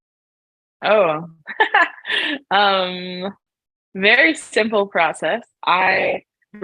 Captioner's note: laughs